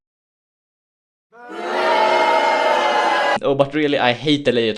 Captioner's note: booooooo!